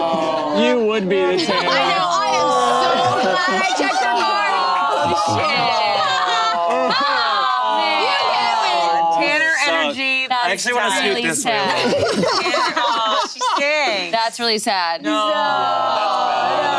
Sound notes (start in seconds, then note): 3.6 group exclaiming